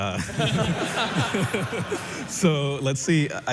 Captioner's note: laughter